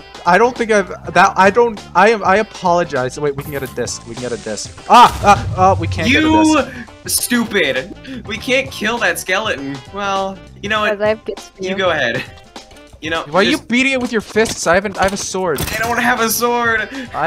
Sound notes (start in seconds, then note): 4.8 explosion; 4.9 skeleton shoots, creeper fizzles